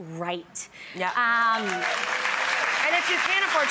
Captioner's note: audience applause